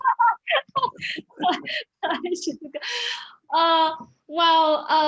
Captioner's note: laughing